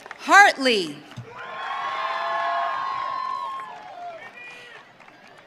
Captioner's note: audience cheering